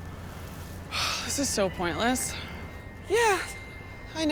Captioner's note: sighs